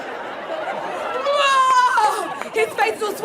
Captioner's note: yells